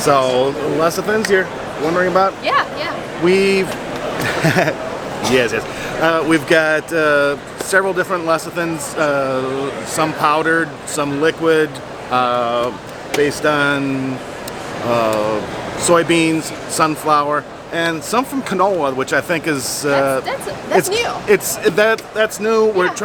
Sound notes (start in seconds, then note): 4.1 laughs